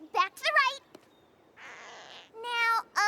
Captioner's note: creak!